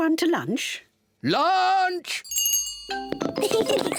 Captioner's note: rings bell; both laugh